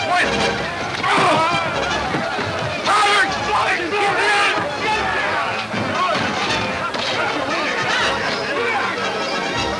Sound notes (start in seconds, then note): 2.7 men yelling simultaneously; 6.1 exiting orchestra music